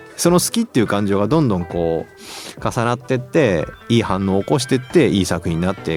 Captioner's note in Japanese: 鼻息